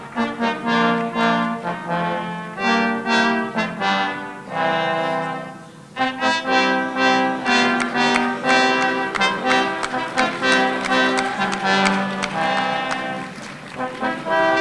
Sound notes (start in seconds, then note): 7.4 audience applauding